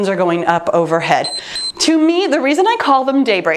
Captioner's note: timer beeps